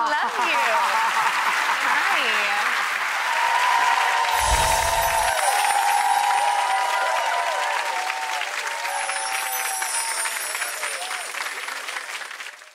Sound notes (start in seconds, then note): 1.1 audience applauds; 3.2 audience cheers